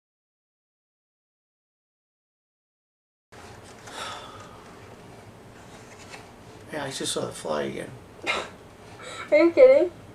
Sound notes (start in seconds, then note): 3.9 sigh